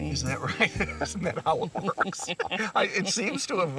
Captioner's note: laughing